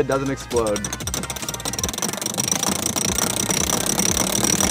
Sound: mechanism cranking

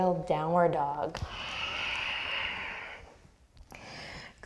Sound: deep breath

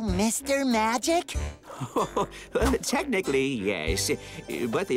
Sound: chuckles

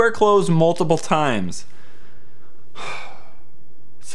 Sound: sigh

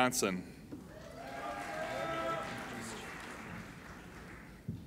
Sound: applauding and cheering

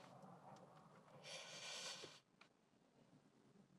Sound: inhales

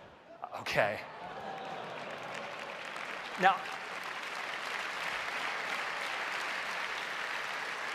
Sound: applause

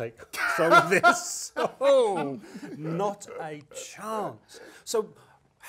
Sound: laugh

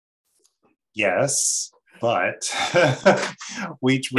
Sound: laughs

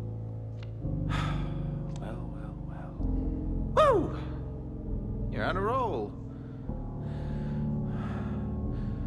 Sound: sighs

